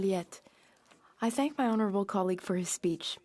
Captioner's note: speaking French